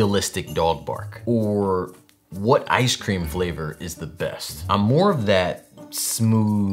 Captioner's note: none